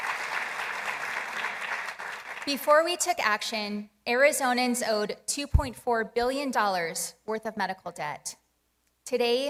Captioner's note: applause